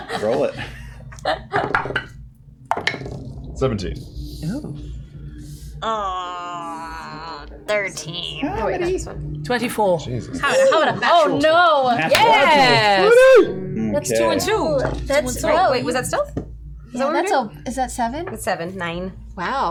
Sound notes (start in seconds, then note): 9.2 groans